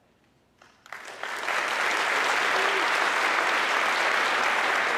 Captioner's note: audience clapping